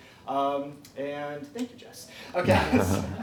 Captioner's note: laughs